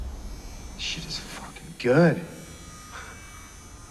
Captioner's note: voiceover